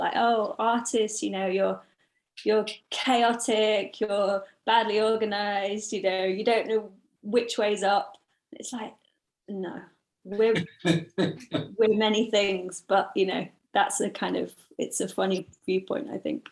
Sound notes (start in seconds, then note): 10.5 laughs